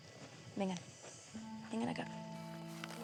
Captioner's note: speaking spanish